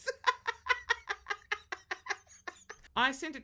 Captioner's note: laughs